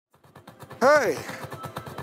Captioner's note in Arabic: صراخ القطار